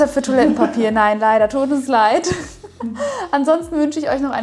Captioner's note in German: lacht